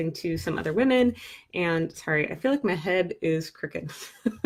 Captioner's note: chuckles